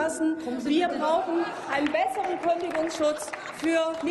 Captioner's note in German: Heiterkeit und Applaus